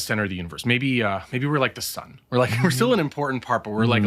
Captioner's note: chuckles